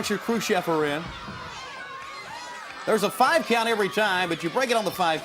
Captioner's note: crowd chatter